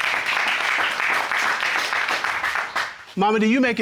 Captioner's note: audience applauding